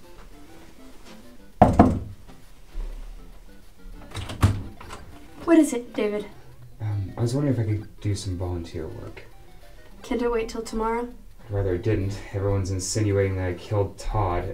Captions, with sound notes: [knock] [door opens] What is it, David? I was wondering if I could do some volunteer work. Can’t it wait until tomorrow? I’d rather it didn’t. Everyone is insinuating that I killed Todd. I